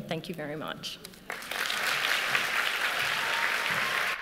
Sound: applause

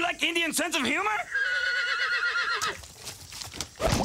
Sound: horse neighing

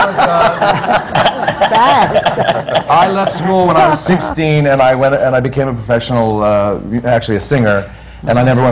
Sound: laughter

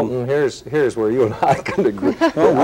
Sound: chuckles

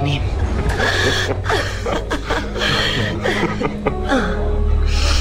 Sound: laughter

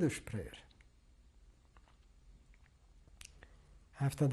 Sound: pauses for 3 seconds

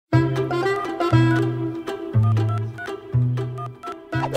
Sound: phone dialling

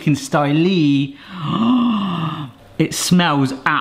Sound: gasping

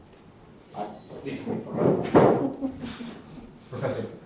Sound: room noise, commotion

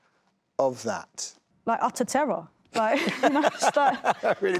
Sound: laughs

